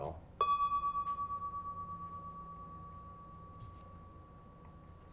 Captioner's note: bell chimes gently ringing